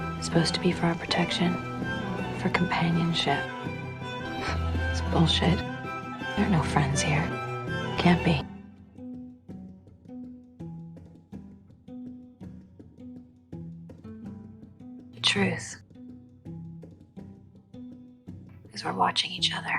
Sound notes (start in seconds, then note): 0.3 voiceover; 2.6 voiceover; 4.3 June scoffs; 5.0 voiceover; 15.3 voiceover; 18.8 voiceover